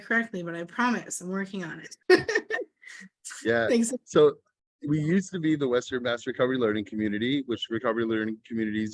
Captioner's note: laughs